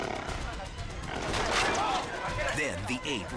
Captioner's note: scooter crashes